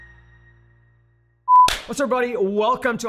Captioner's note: beep; claps